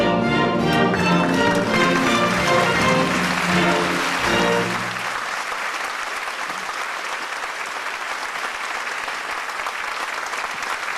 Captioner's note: applause